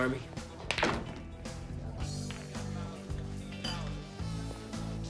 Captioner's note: balls clacking